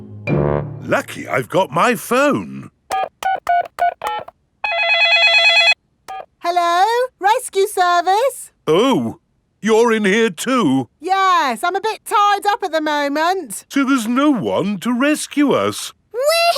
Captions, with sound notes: Lucky I've got my phone! (DIALING) (CELL PHONE RINGING) Hello, rescue service. Oh. You're in here too. Yes, I'm a bit tied up at the moment. So there's no one to rescue us!